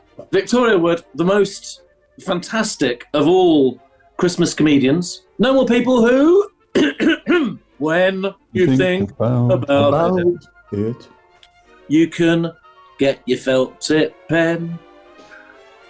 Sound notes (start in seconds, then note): 6.7 clears throat